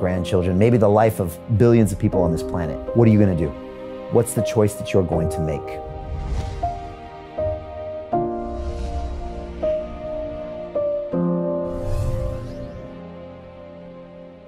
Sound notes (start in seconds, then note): 5.8 sound effect whooshes; 5.9 gentle music